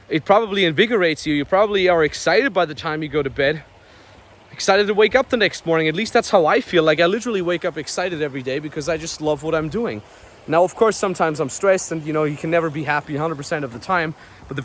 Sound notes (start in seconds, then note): 3.9 river flowing